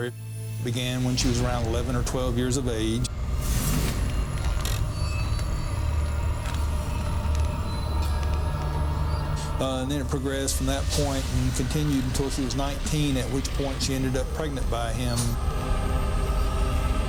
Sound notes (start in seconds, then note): 3.7 ominous music; 4.0 floorboards creaking